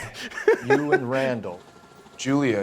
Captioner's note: laughs